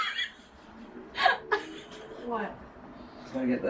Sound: host laughing

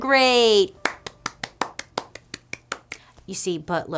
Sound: claps hands

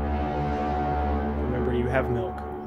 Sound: foghorn blowing

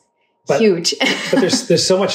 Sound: laughs

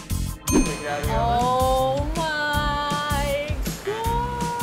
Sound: bell dings; yells

